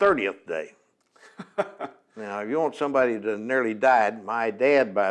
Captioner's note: laughs